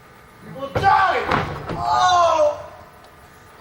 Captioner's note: guy moans in pain